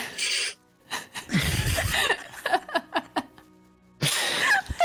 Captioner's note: oh-no-cursing giggles